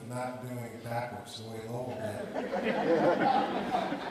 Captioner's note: audience laughing